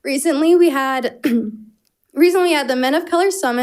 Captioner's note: clears her throat